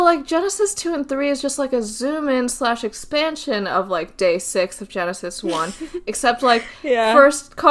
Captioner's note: laughs